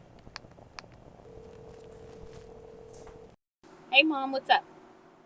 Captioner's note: phone ringing